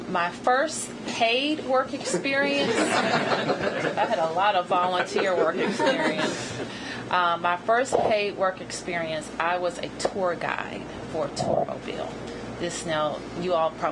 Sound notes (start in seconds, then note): 3.6 laughter